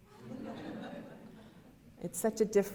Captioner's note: audience laughter